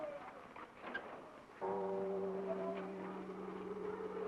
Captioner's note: the new year bells sound